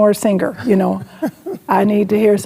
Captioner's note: laughing